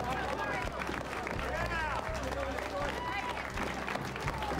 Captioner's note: crowd applauds